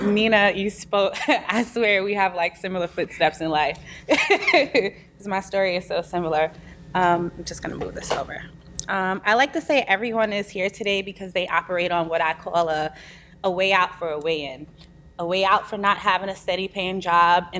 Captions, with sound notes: Nina, you spoke, I swear, we have like, similar footsteps in life. (laughs) 'Cause my story is so similar. I'm just gonna move this over. I like to say everyone is here today because they operate on what I call a way out for a way in. A way out for not havin' a steady-payin' job,